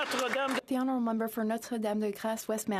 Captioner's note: applause